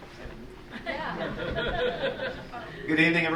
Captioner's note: crowd chuckling